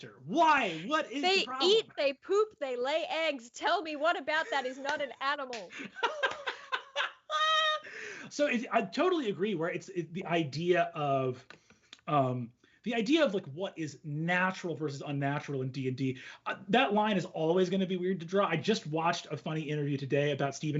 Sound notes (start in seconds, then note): 5.7 laughs out loud